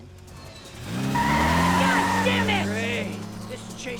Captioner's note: tires screech